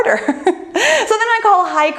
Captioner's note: laughing